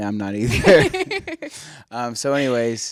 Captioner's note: laughs